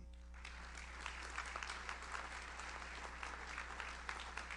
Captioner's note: audience applauds